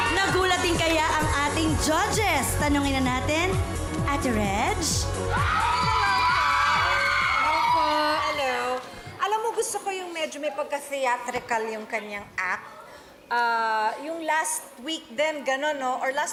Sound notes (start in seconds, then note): 5.3 audience cheering